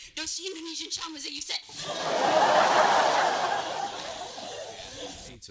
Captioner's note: laughter